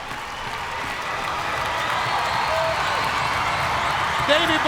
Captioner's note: crowd cheers, clapping and stomping